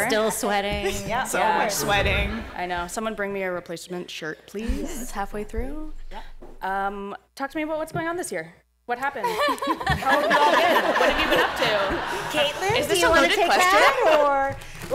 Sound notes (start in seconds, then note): 9.2 laugh; 11.9 laughter